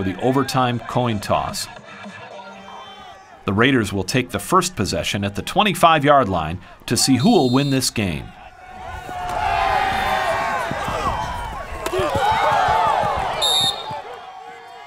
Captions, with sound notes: overtime coin toss. The Raiders will take the first possession at the 25-yard line to see who will win this game. [CROWD CHEERING]